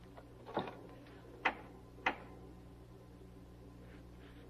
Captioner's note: door opening